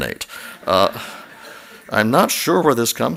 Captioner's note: laughter